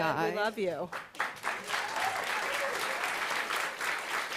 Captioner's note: applause